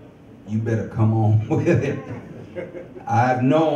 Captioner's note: chuckles